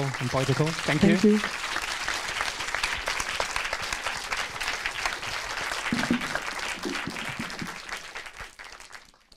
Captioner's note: applause